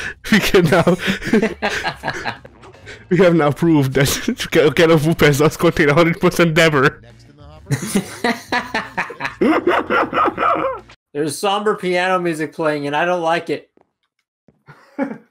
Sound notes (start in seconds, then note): 7.6 laugh